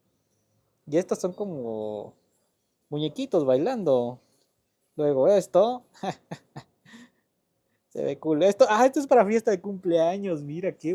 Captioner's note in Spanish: risas